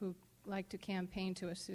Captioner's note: none